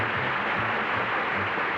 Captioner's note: applause